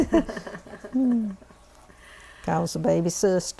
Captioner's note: laughter